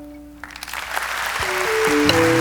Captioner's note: audience applauds; bright instrumental music